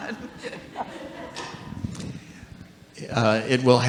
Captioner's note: audience laughing